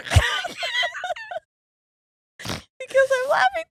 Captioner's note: laughing